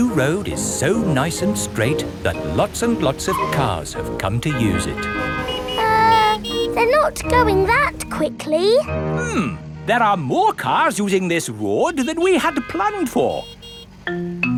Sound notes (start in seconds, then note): 6.0 horns honking